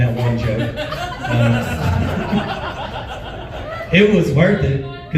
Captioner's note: laughs